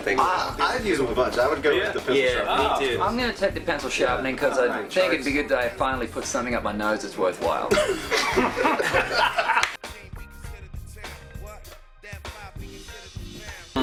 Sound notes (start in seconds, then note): 7.7 laughter